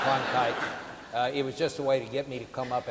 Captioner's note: audience laughing